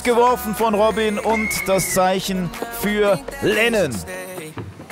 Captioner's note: Pfeifen